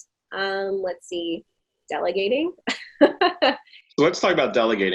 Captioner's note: laughing